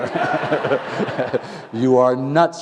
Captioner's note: laughter